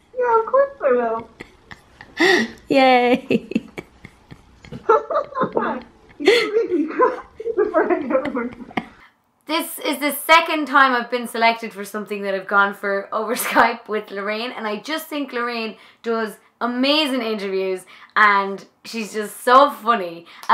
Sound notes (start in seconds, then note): 2.5 giggling; 5.4 laughing